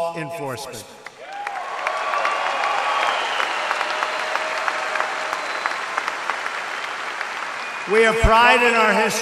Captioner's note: applause